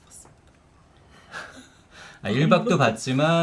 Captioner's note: laughing